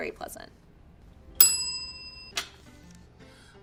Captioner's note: bell rings